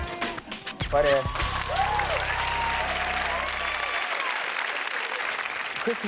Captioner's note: audience cheers and applauds